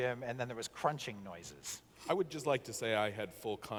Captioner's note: none